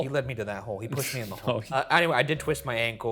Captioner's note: chuckling